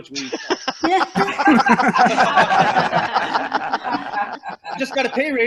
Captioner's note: loud laughter